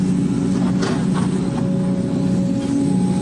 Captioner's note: more digging noises